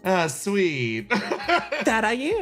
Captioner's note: laughs